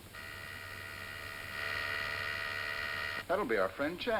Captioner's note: doorbell buzzes